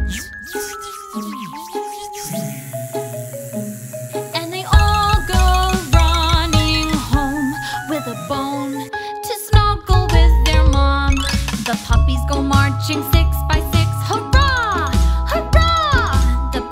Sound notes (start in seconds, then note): 0.1 bee shouting; 2.7 bees buzzing